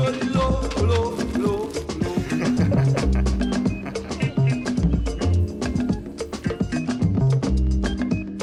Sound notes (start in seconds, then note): 1.1 laughing